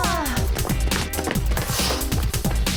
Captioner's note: exasperated sighs